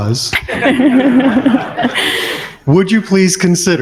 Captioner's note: crowd laughs